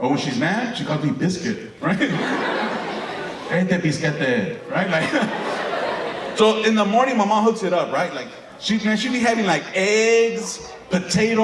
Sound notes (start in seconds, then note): 1.8 audience laughing; 3.6 speaking Spanish